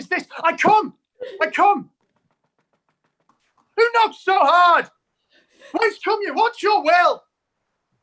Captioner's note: knock